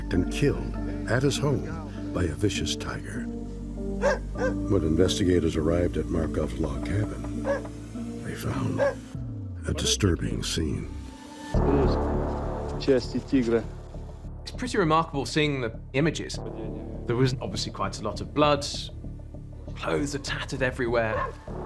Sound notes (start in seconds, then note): 13.5 man speaking Russian